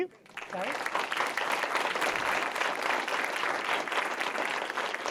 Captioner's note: audience clapping